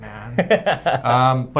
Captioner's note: laughs